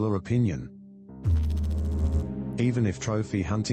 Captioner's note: electrical noise